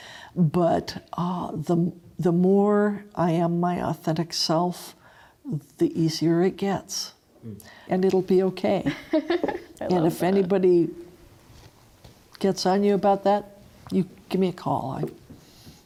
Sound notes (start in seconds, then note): 8.8 chuckles